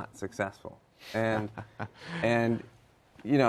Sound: laughter

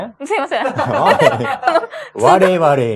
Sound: laughs

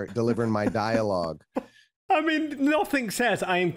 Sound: laughs

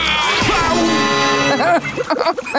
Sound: laughing

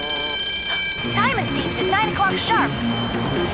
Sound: alarm blaring

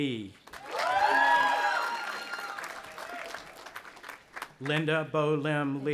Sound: audience applauding and cheering

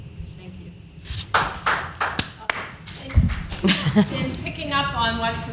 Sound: panel claps

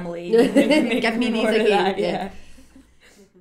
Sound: laughs

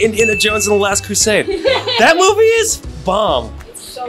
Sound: Ariana laughing

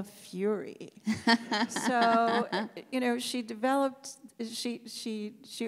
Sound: laughs

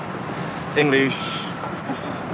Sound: speaks Dutch

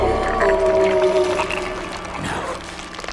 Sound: screams

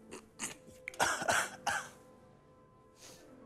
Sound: coughing

